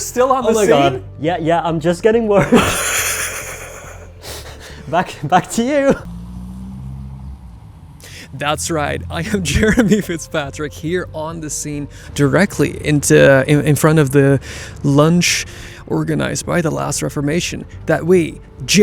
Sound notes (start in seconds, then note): 2.4 both chuckling